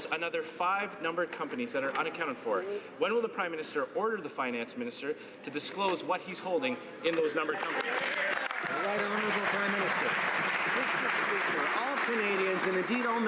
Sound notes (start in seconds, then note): 10.9 some Applause